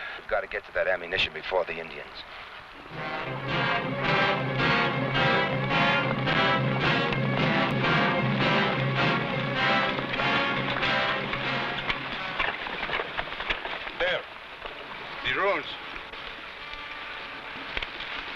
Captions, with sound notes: - We've got to get to that ammunition before the Indians. (tense music) (horse hooves pattering) - There. The ruins.